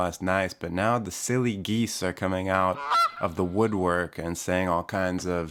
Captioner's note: goose squawk